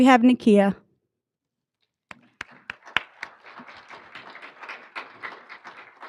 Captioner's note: applauding